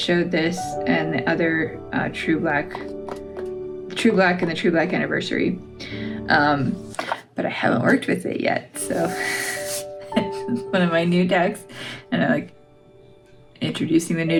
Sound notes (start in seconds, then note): 10.0 laugh